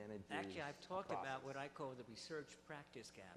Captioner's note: voiceover